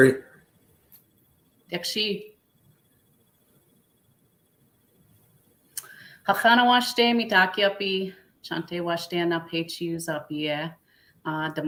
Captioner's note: speaking Dakota